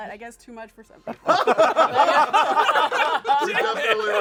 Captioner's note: laughter